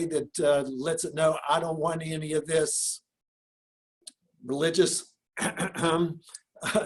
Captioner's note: clears throat